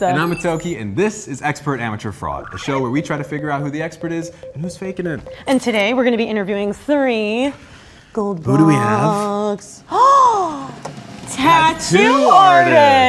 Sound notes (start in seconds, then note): 10.1 woman gasping